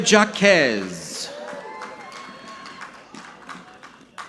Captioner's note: audience clapping